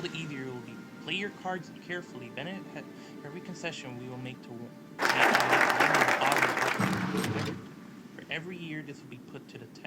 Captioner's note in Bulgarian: Аплодисменти